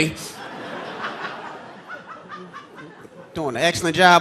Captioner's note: audience laughing